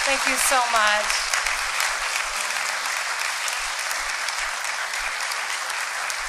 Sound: applause

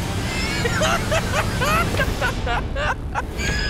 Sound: laughs

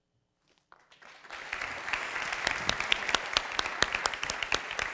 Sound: applause

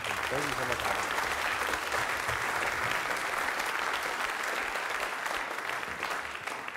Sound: applause

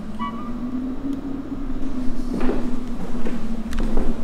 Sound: horn squeaking

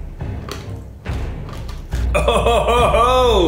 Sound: crunching

